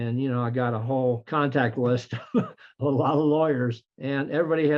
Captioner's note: laughs